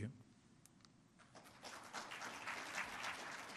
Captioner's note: applause